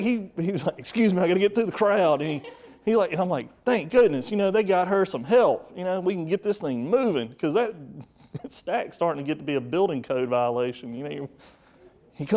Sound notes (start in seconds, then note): 1.7 audience laughing; 7.9 chuckle